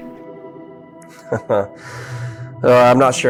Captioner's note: chuckling